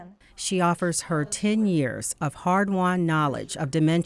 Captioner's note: voiceover